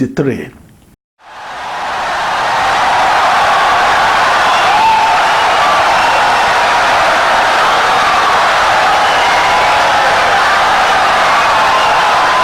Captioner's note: wild applause and cheering for 17 seconds